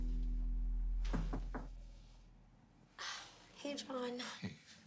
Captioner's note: soft music continues; knocks on door